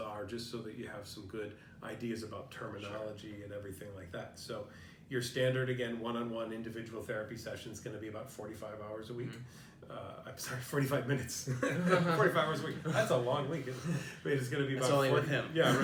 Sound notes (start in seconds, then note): 11.4 laughter